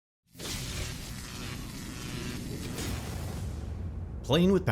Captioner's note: electricity buzzing